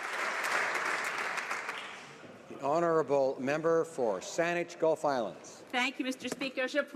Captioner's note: applause